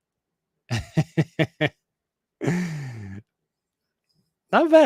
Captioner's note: laughs